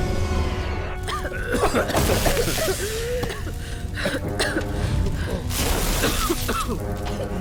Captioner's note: alarms blaring, fire crackling; all coughing